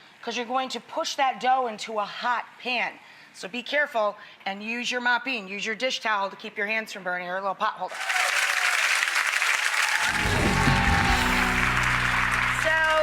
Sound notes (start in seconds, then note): 7.9 audience cheers; 10.1 bright music